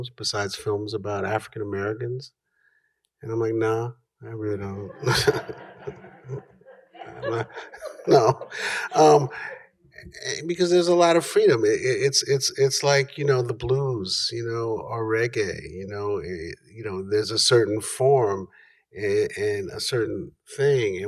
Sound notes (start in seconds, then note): 4.8 laughter